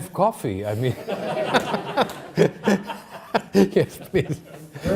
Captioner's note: all laughing